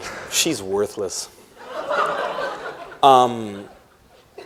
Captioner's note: laughter